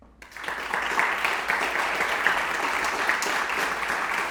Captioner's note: audience applauding